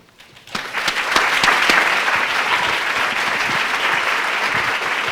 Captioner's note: audience clapping